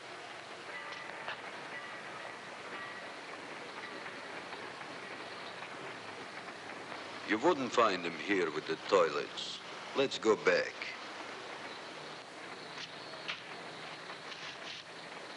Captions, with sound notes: (distant bells ringing) - You wouldn't find him here with the toilets. Let's go back.